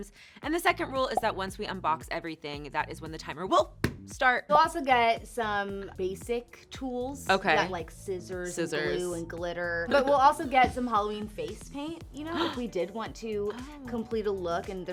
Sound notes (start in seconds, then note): 12.4 gasps